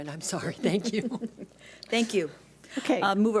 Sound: laughs

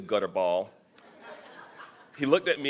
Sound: audience chuckling

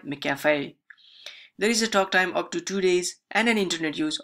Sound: takes a deep breathe

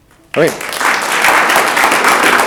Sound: audience applauding

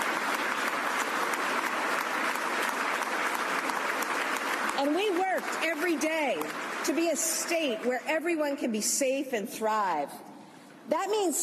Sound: applause

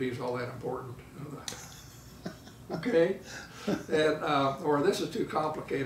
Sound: laughing

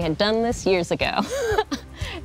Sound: laughs

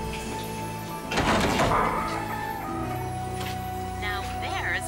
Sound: emotional music; door creaks

